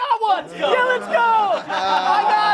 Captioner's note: laughing